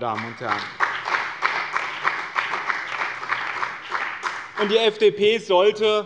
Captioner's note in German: Beifall bei dem BÜNDNIS 90/DIE GRÜNEN und der CDU